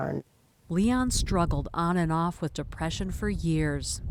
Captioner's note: voice-over